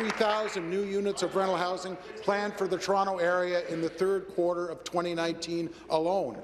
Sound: applause

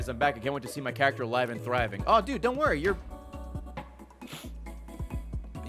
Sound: sniffs

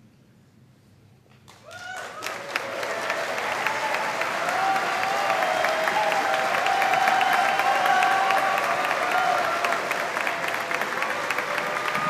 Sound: applause

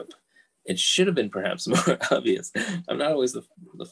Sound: laughs

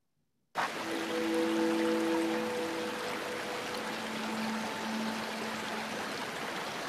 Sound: water splashing; gentle music

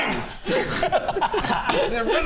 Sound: homicidal giggles

